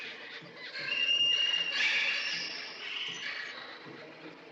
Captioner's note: creatures Calling, Chattering